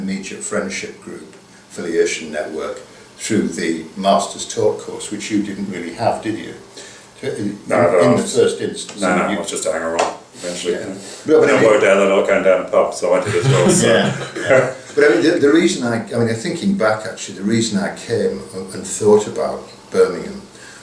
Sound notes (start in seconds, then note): 13.2 laughter